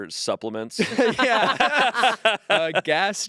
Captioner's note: group laughing